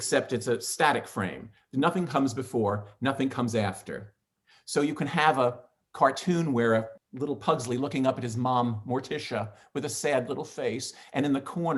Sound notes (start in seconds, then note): none